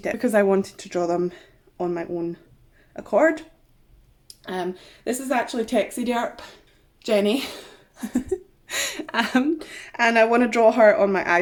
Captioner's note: giggles